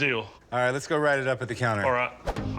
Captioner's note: none